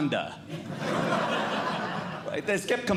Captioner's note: audience Laughing